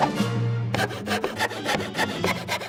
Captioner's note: sawing faster